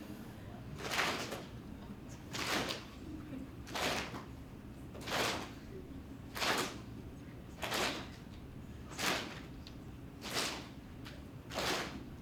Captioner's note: clapping noises